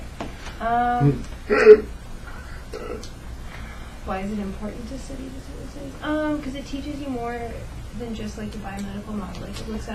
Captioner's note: reacts audibly